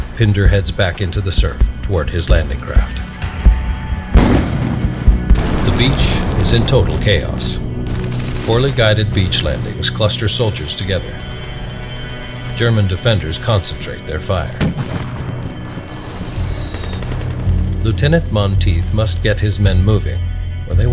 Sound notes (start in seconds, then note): 4.1 explosions booming; 14.4 artillery booming